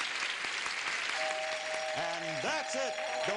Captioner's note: bell rings